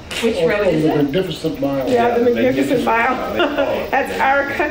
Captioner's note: laughs